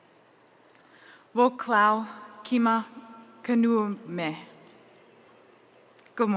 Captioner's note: speaking in Native language